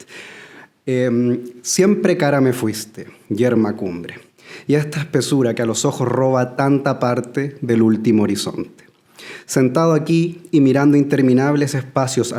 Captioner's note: Spanish translation is recited